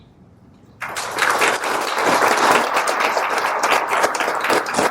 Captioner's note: applause